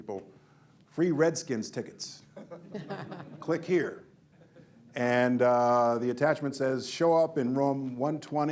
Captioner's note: laughter